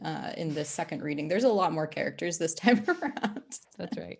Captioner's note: laughs